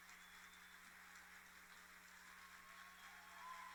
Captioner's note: applauding